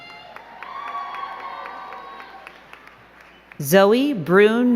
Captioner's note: crowd cheering and clapping